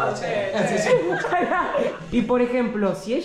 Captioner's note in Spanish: Risas